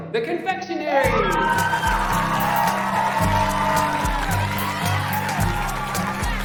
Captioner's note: audience cheering; audience clapping